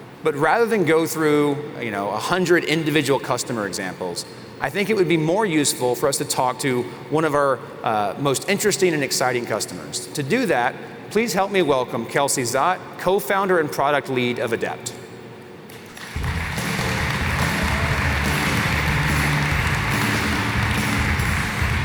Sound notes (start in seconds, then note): 15.7 applause